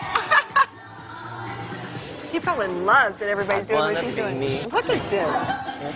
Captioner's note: laughter